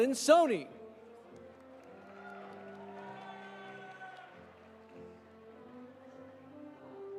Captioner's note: audience applauding; audience cheering